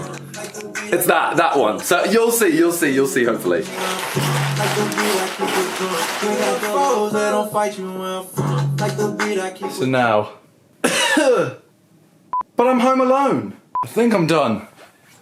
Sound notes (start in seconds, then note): 10.8 coughs